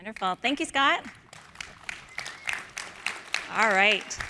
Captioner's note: applause